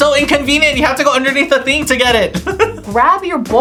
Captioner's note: laughs